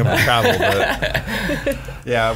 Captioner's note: laughs